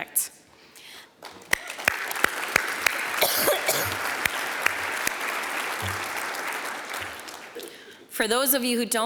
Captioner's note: applause